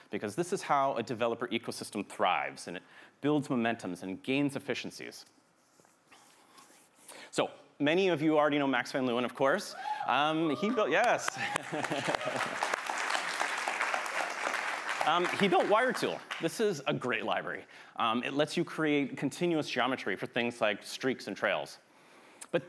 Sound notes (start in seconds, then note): 9.6 attendee cheers; 10.3 all applauding; 10.4 laughs